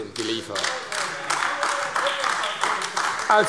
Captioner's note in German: Beifall AfD – Zurufe CDU und BÜNDNIS 90/DIE GRÜNEN